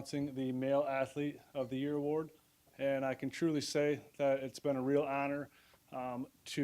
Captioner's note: none